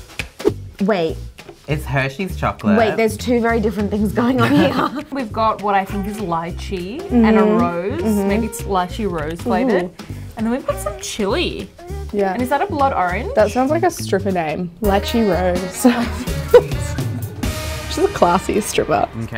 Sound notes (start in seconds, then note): 15.5 provocative music; 15.7 laughing